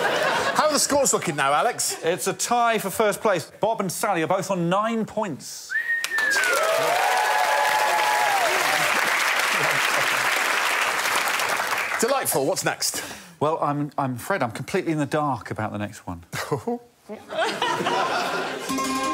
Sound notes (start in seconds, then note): 6.2 audience laughs